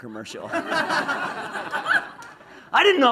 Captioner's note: laughs